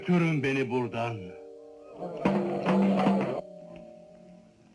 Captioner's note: indistinct chattering; drums playing